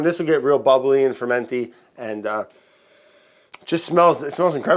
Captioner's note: sniffs